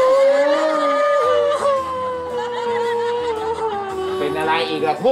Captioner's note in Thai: ร้องไห้